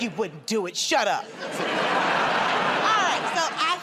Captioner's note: laughter